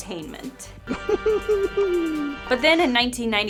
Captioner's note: adorable laughter